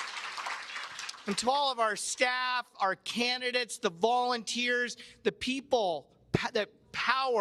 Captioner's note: cheers and Applause